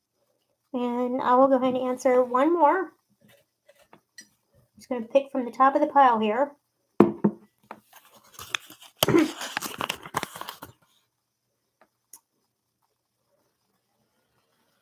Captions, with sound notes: And, I'll go ahead and answer one more. I'm just gonna pick from the top of the pile here. (jar taps table) (paper rustles)